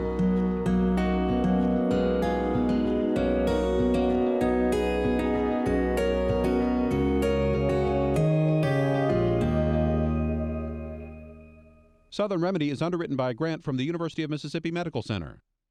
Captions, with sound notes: - [Voiceover] Southern Remedy is underwritten by a grant from the University of Mississippi Medical Center.